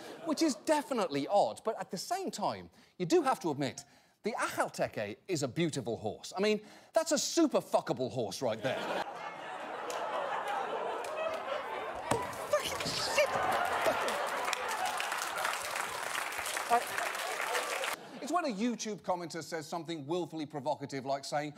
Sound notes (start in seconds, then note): 12.4 audience laughter; 13.0 audience applause